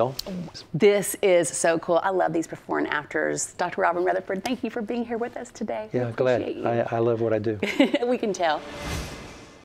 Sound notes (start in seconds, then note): 7.6 laughter